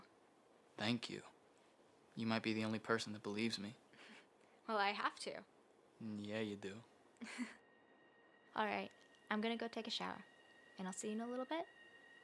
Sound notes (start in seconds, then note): 7.2 chuckles